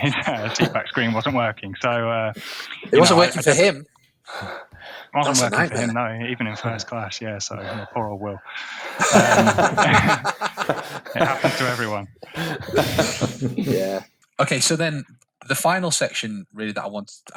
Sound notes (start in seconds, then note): 0.0 chuckle; 8.8 laughing